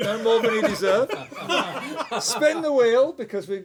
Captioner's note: laughter